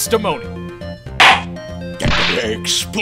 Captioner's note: gavel slam!